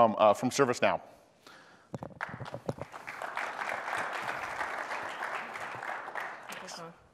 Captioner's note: applause